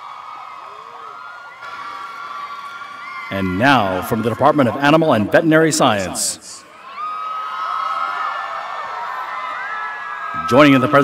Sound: cheers and applause

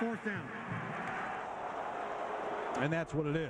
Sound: crowd exclaiming

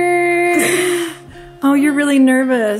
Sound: sighs

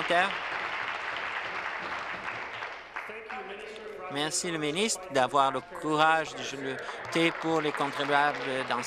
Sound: applause

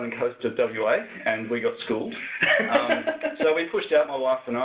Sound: laughs

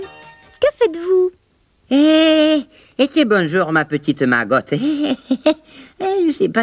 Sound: chuckles

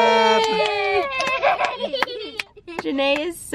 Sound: laughing

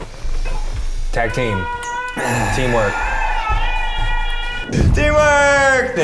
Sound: deep exhale

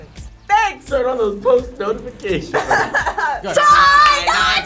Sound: laughs

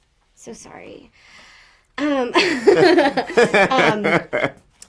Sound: they laugh

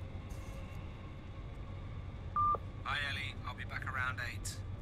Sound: beep

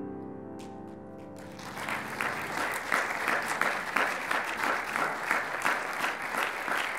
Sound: applauding

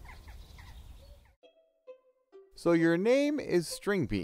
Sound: birds chirping

